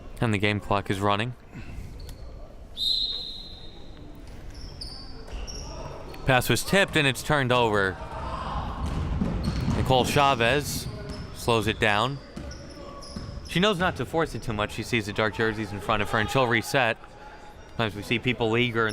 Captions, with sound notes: And the game clock is running. (whistle chirping) Pass was tipped and it's turned over. Nicole Chavez slows it down. She knows not to force it too much, she see the dark jerseys in front of her and she'll reset. A lot of times we see people eager